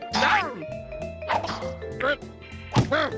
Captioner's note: grunting